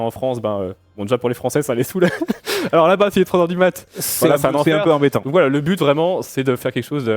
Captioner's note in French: rires